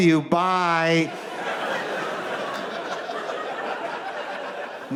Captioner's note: audience laughs